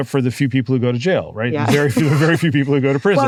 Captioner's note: laugh